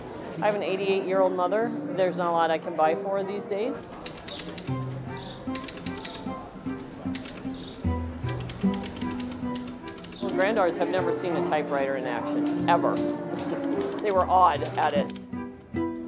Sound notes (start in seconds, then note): 5.5 instrumental music; 5.5 keying typewriter